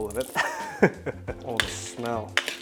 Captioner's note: chuckles